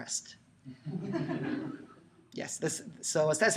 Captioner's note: laughter